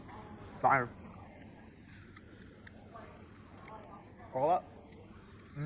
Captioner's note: chewing sounds